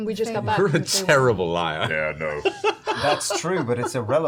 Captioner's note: laughs